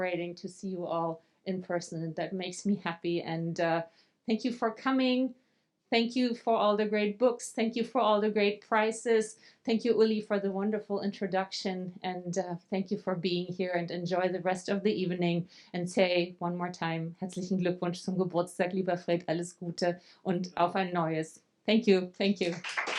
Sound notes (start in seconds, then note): 16.9 speaking German